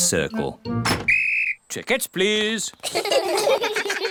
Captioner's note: blows whistle; all laugh